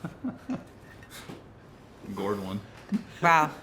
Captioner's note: chuckles